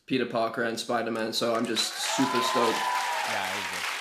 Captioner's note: cheers and applause